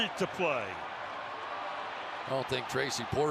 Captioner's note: cheering